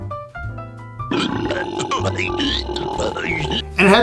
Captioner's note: Klaymen burps